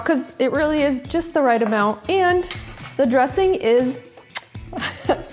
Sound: kisses

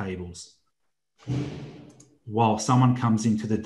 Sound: metal door clanging loudly

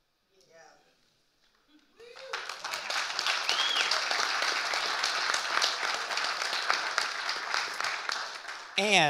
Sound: audience cheering and applauding

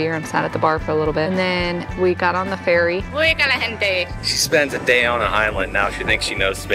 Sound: speaking in foreign language

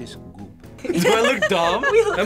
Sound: group laughs

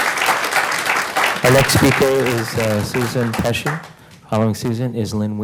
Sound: applause

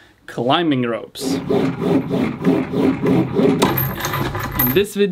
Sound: rope rasping

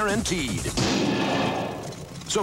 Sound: engine backfires

